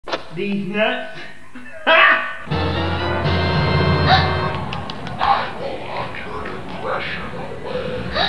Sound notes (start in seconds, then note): 4.4 audible Applause